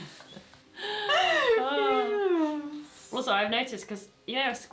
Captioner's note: laughter